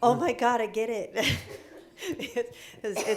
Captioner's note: laughing